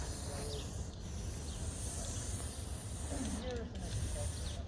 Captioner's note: spray whistling